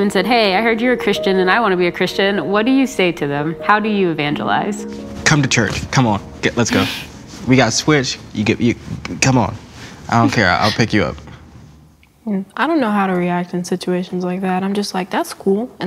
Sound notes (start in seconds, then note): 8.6 stutters